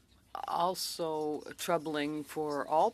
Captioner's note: speaking French